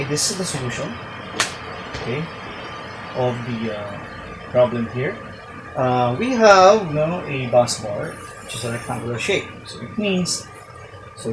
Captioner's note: snapping